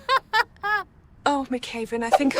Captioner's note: laughs